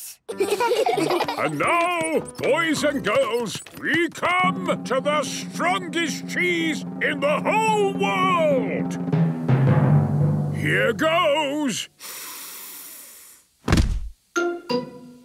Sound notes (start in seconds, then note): 9.3 dramatic drumming music; 12.0 sniffs